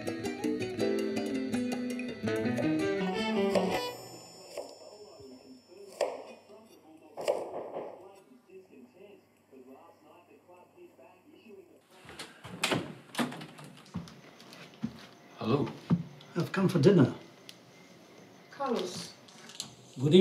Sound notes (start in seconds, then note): 3.8 TV chattering in the background; 7.6 knocking